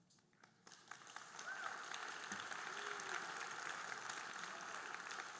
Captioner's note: audience applauding